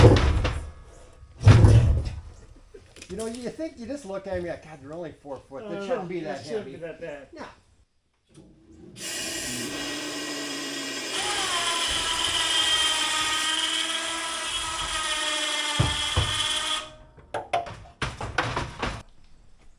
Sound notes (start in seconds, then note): 0.0 wood bangs; 8.9 machine whirring